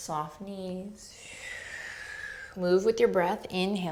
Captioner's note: exhaling